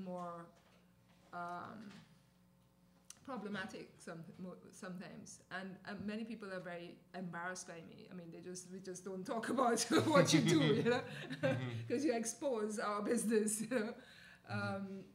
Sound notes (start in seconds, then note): 9.9 laughter